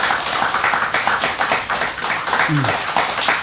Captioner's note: applause